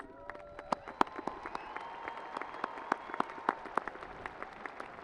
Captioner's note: audience applauding